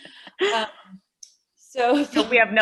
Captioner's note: laughter